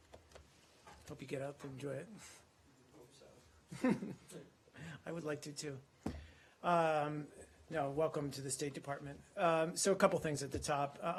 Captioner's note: laughter